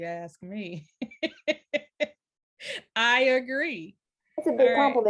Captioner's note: laughs